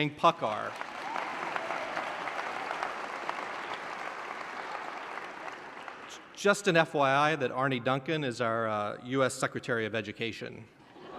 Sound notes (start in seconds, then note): 0.2 applause; 10.8 laughter